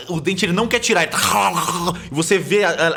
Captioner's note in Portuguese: Grunidos